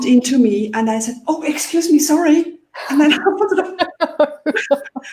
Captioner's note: laughs